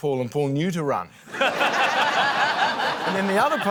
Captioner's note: laughter